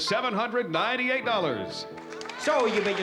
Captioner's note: applause